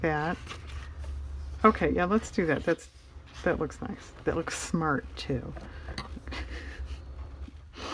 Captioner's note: laughs